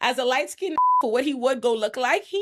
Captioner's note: beep